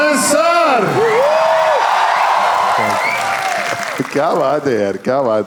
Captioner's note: crowd applauding